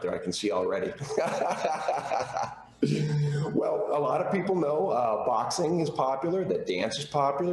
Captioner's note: laughter